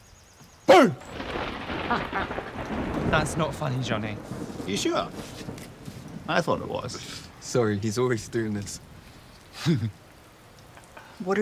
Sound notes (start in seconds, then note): 1.8 laughs; 2.0 thunder clapping; 9.0 laughs